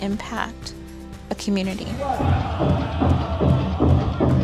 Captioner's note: men chanting, drums beating